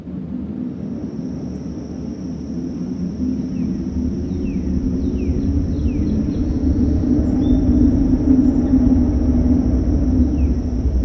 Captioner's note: crickets, birds and other wilderness sounds